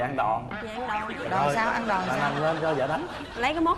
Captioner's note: laughing